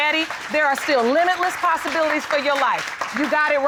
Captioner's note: audience applauding